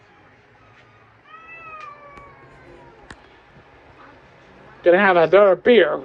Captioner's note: meows